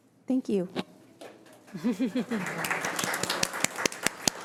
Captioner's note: audience applauding